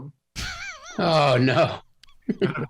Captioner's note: laughs